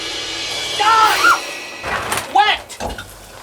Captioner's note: Virginia screams